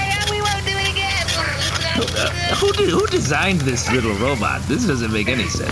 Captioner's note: more robotic barf-y sounds